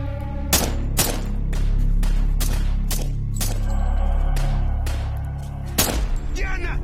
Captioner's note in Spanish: Disparos